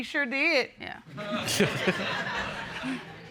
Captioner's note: laughing